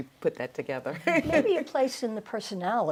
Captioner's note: laughs